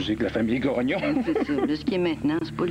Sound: Rire

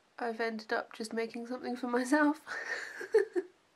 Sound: laughs

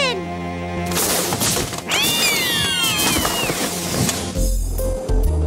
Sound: drawer clattering; mice shrieking; upbeat instrumental music

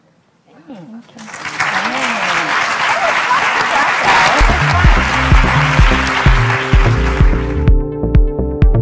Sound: applauds

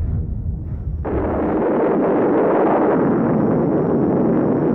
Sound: bomb blasting

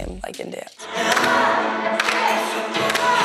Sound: all clapping

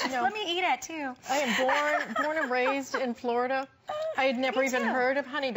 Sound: laughter

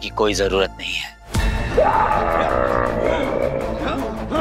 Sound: screaming

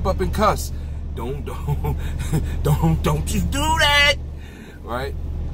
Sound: laughs

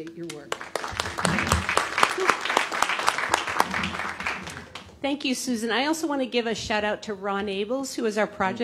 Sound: applause

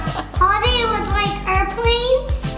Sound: laughs

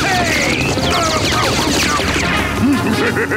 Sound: groaning; laughing

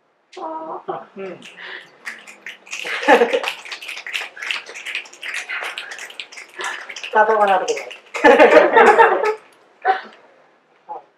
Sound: audience aww and snaps; audience giggles

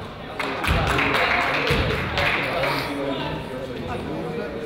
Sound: crowd applauds

